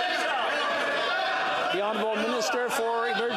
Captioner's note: yelling